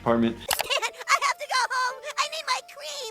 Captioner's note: crying